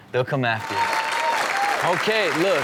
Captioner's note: audience clap